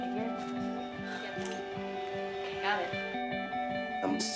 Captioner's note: click